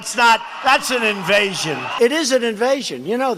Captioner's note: applause